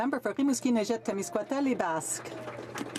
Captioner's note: some Applause